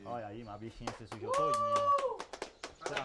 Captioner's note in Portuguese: bradando